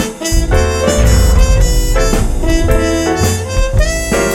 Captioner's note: distorted explosion sound